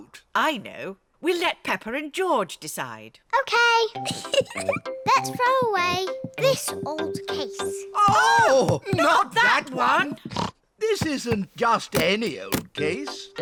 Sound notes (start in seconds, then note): 4.0 giggles; 10.2 snorts